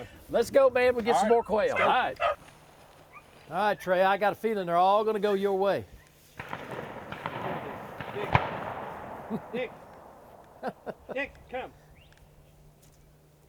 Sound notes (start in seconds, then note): 6.3 distant gunshots echo